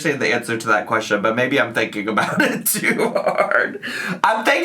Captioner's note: laughs